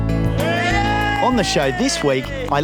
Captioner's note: cheering